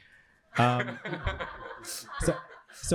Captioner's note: laughter